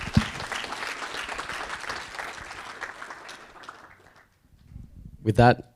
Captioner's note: audience applauding